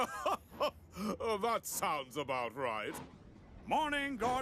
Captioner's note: chuckles